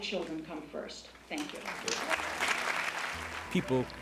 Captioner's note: applause